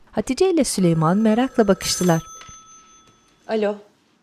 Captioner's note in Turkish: Telefon zili sesi